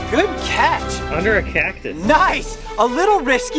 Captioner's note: voiceover